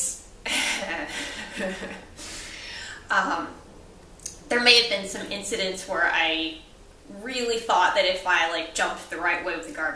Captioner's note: laughs